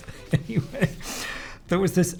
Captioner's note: laughs